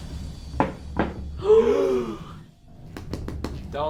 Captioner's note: gasping